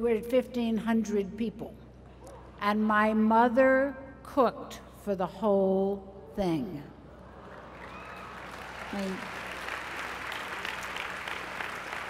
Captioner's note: applause